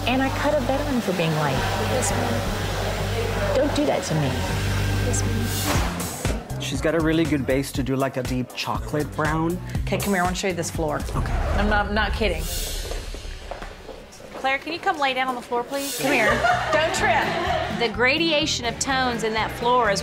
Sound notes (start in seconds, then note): 11.3 record scratches; 16.1 laughs